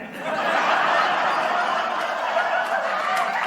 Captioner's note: audience laughter